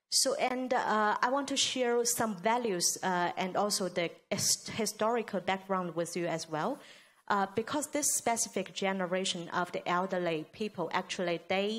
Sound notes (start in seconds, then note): none